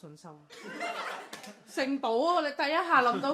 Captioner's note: everyone laughs